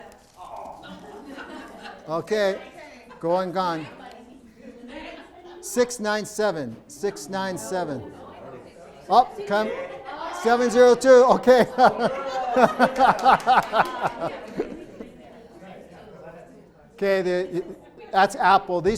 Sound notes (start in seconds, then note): 11.2 laughs